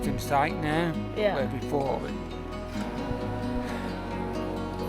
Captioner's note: sighs